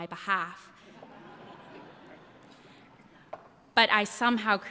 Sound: laughter

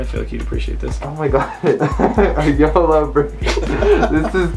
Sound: while laughing

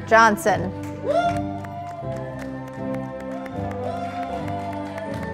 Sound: audience applauding

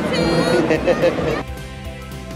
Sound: laughs; upbeat music

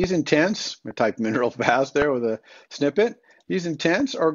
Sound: chuckles

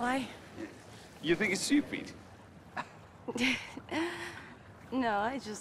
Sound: laughing

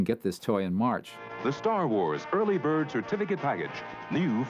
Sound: man Announcing

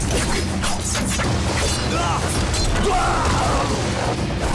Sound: groaning

